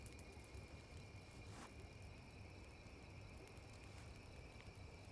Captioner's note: fire crackling